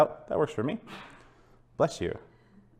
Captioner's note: sneeze